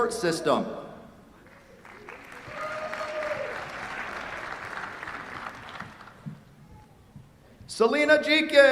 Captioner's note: applause